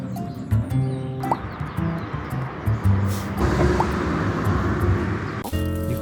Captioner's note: inhaling